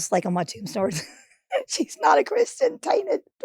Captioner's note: Marguerite chuckles